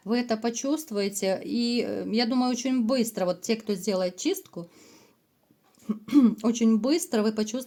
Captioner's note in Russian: откашливается